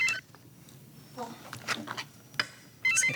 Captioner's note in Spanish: suena el celular